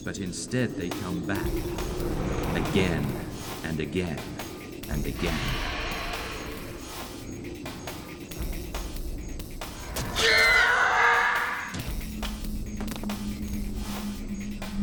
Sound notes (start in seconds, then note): 1.3 growls; 7.3 ominous music